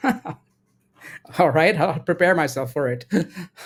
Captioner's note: laughs